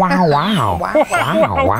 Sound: beeping and whirring; in Owen Wilson voice

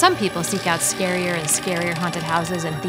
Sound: door creaking

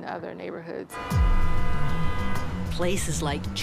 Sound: car horns blaring

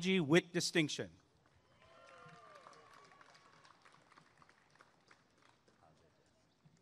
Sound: applause and cheering

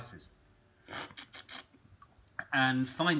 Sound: slurping

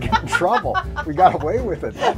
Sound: laughs

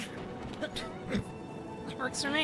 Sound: snort

